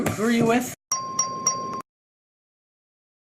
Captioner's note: ding, ding, ding